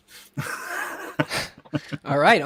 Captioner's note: guy laughs